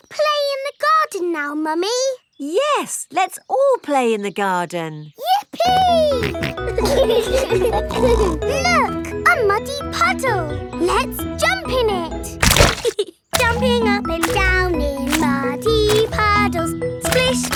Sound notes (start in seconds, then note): 7.2 laughing